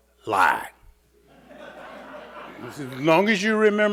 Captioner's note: audience laughing